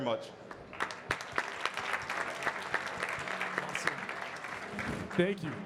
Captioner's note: audience clapping